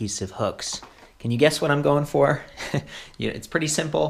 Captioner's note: chuckles